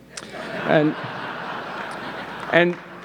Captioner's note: audience laughing